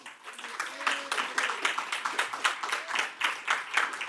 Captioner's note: audience applauds